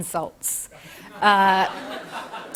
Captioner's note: laughter